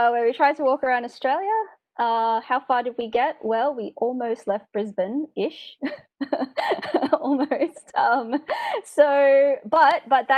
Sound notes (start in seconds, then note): 5.8 laughing